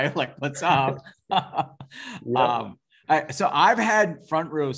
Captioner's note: laughing